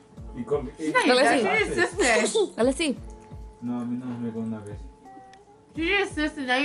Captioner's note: speaks in foreign language